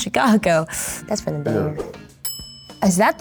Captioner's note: bell dinging